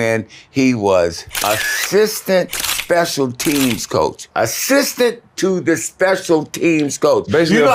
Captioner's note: camera clicking